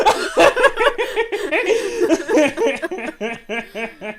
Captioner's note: ah, the sounds of friendship and laughter~